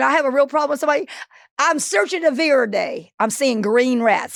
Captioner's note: Marguerite speaking in foreign language